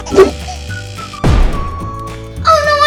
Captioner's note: laughs; electrical buzzing; banging